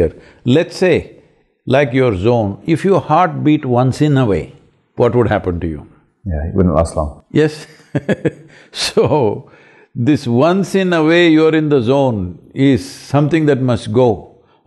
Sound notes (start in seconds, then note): 7.7 laughs